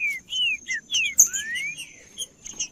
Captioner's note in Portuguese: trinca ferro cantando